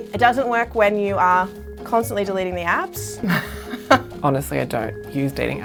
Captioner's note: laughs